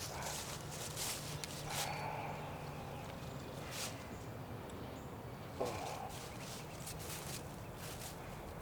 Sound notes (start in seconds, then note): 0.0 footsteps pattering through leaves